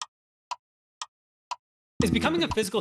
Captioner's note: clock Ticking